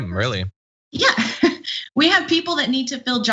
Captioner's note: laugh